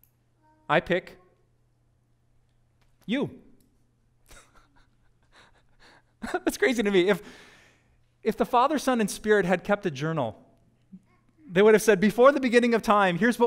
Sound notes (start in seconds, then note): 4.2 pastor: Laughter